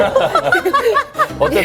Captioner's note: sob